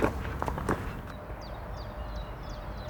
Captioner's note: birds chirping